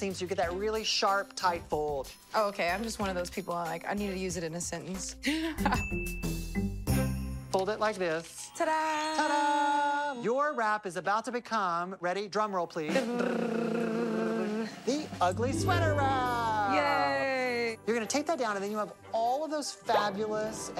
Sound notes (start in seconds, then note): 5.8 laughs; 12.9 both imitating drum roll